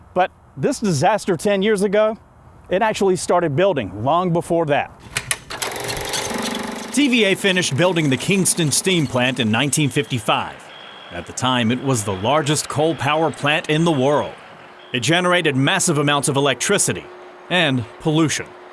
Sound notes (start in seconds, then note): 5.0 film projector whirring